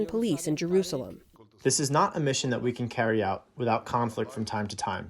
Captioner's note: through translator